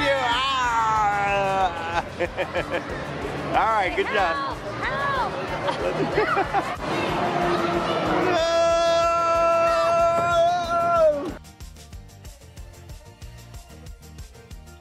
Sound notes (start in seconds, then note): 1.1 Dino dad laughs; 10.8 upbeat music plays